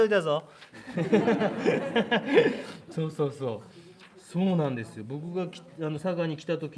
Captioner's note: laughter